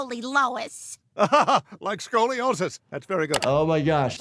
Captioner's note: laughs